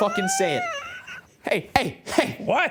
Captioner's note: laughs